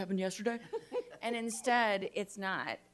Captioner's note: group laughs